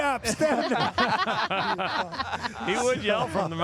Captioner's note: everyone laughing